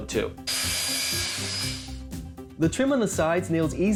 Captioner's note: saw whirring